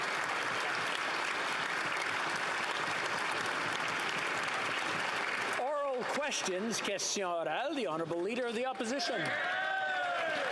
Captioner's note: applause